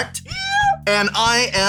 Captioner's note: high pitched